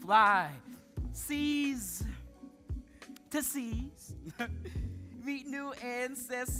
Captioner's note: chuckles